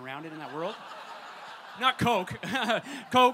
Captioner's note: audience laughter